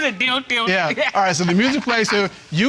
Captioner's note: mimics sexual music